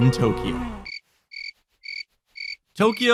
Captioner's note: crickets chirping